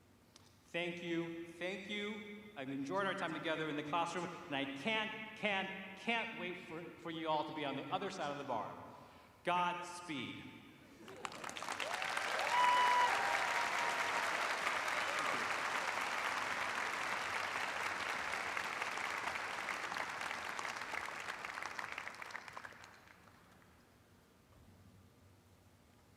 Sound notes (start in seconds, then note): 11.0 cheers and applause